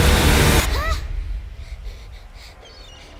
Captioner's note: child yelps in fear